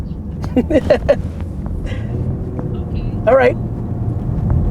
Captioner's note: laughs